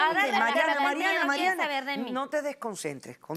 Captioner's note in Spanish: Hablan al unísono